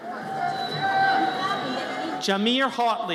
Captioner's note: audience cheers